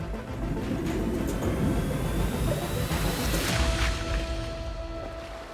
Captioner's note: water burbling